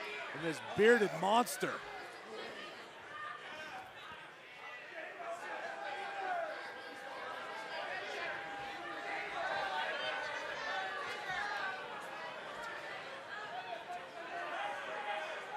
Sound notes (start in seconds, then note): 4.6 crowd cheering